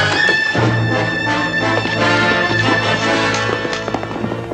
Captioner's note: hoofbeats receding